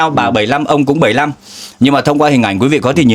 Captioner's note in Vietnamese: khịt mũi